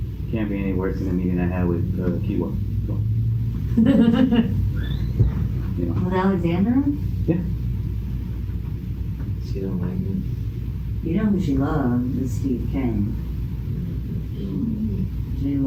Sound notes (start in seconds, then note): 3.7 laughs